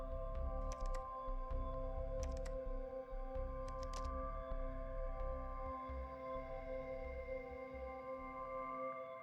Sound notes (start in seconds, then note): 2.2 keyboard clacking